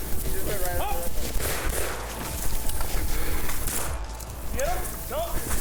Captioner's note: gunshot rings out